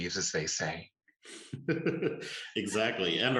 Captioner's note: chuckle